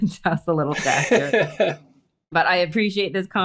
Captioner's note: laughing